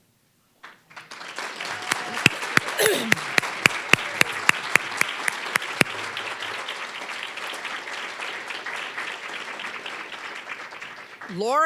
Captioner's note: applause